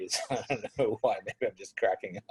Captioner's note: laughs